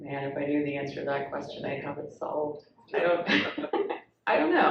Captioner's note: laughs